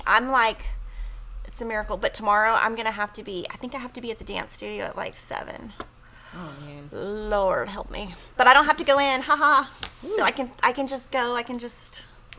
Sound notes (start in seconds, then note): 9.4 laughs